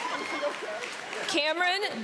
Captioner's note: laughter